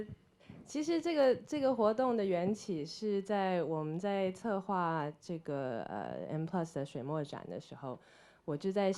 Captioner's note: Mandarin